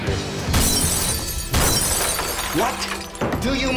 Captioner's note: glass Smashing